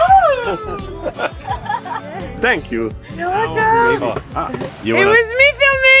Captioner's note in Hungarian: nevetés